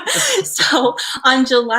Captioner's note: both laugh